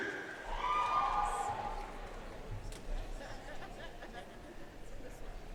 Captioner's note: audience cheering and applauding